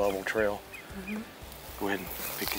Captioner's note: murmuring in agreement